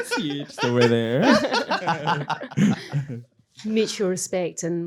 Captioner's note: everyone laughing